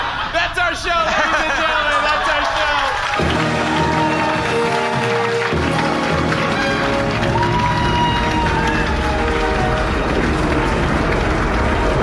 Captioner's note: audience laughter